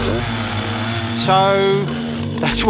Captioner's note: chainsaw